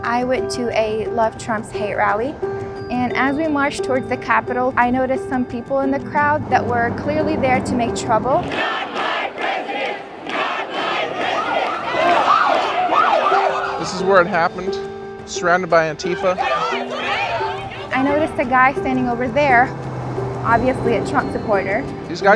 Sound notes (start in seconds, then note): 8.4 crowd; 12.0 police sirens; 16.0 crowd yelling